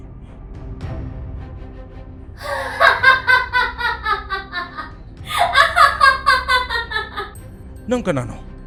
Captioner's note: eerie laugh